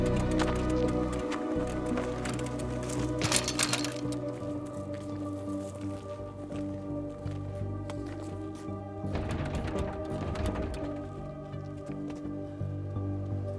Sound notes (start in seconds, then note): 3.4 bikes rattle; 5.4 eerie music; 9.1 door rattles